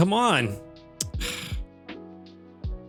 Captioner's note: sighs